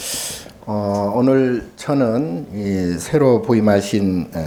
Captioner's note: speaking Korean